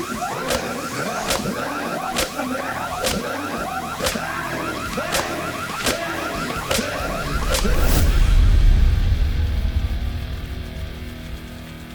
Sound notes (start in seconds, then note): 0.0 fire alarm blaring; 0.1 Michelle screaming; 2.2 fire alarm blaring; 4.6 Adam groaning; 7.4 dramatic music